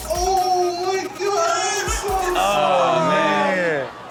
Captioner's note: baby cries